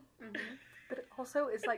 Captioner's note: laughing